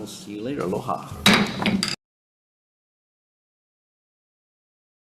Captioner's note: gavel bangs